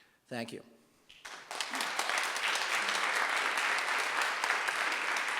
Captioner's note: audience applauds